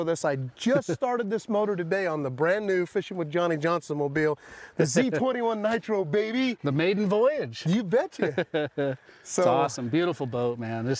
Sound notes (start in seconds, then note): 8.1 chuckles